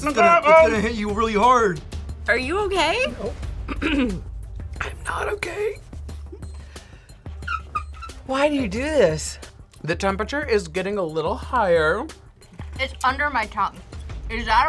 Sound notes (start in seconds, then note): 3.6 clears throat; 4.7 whispers